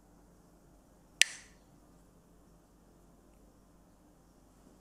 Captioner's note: Mooji clacks the sticks